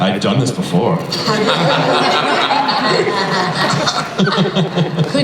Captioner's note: laughter